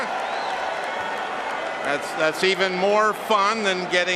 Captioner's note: cheering and applause